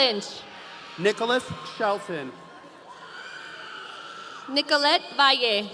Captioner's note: audience cheering